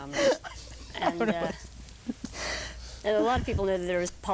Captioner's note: laughing